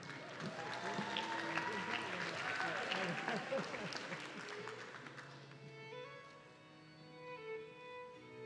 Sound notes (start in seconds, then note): 0.0 audience cheering